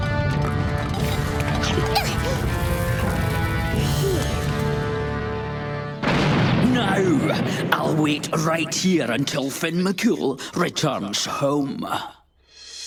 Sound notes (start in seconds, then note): 6.0 thud